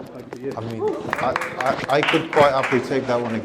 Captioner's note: attendees clapping